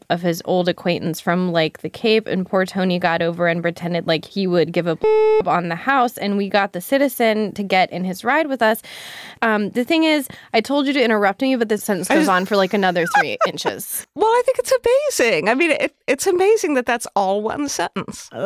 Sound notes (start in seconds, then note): 5.0 beep; 12.0 laughing